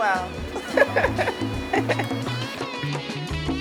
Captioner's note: laughs